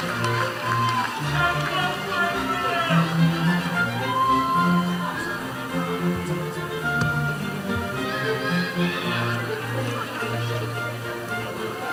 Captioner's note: cheers and Applause